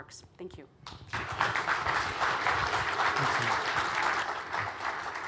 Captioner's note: audience applauding